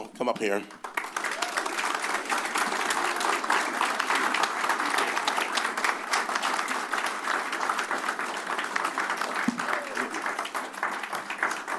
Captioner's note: applause